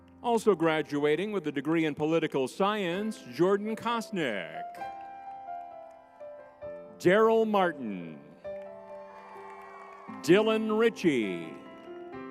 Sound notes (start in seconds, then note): 8.4 crowd cheering